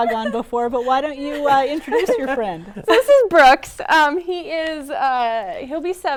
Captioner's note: laughter